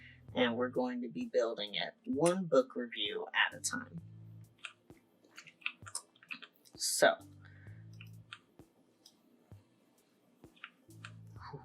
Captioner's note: nervous exhale